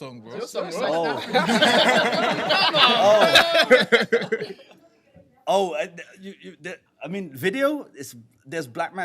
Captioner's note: laughter